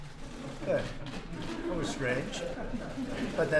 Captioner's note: laughter